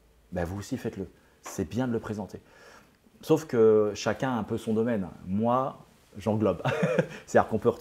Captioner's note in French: Rire